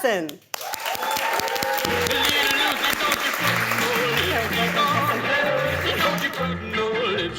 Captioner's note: audience applauding and cheering